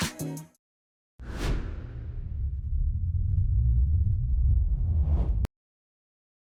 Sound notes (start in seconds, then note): 1.2 air whooshes; 1.8 engine rumbling